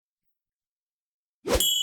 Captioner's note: gentle whoosh; bell dings